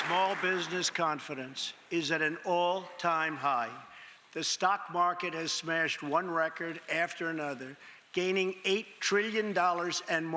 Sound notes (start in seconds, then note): 0.0 cheers and applause; 1.5 applause